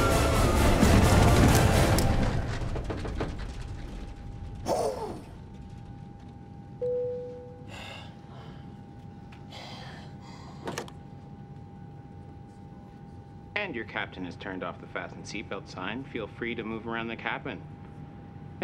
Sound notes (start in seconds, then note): 1.8 seatbelt clicking; 4.6 sighs of relief; 6.8 sign beeps; 7.6 sighs